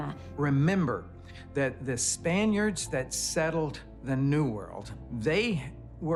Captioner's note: in English